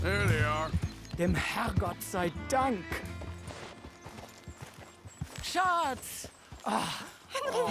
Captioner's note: in German